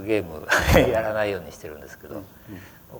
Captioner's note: laughter